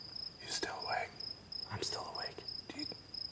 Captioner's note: whispering